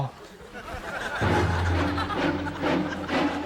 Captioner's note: audience laughs; suspenseful music